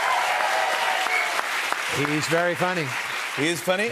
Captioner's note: cheers and applause